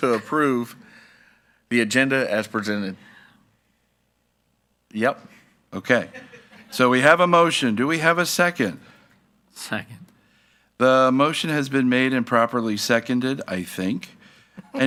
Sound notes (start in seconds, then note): 5.9 attendee laughing